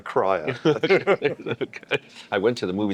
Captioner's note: both laughing